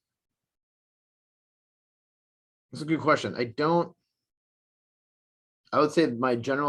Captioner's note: none